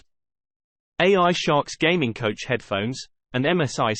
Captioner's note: british male voice